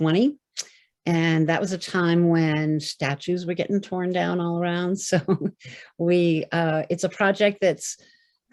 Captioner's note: laughter